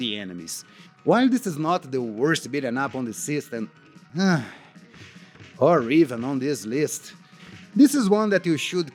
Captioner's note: sigh